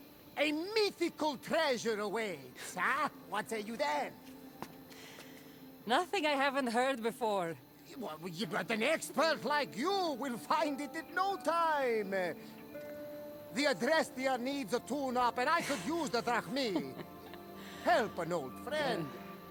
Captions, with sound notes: ...A MYTHICAL TREASURE AWAITS, HUH? What say you then? (laughing) Nothing I haven’t heard before. Ye- w- well yeah, but an expert like you will find it in no time! The Adrestia needs a tune up, and I could use the drachmae! Help an old friend!